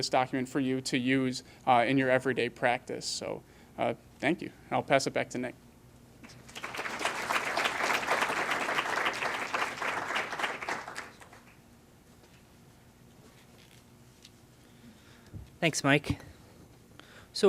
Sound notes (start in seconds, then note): 7.8 clapping